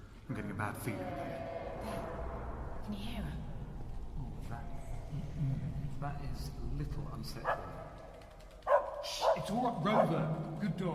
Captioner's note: ghostly sound in the background; dog barks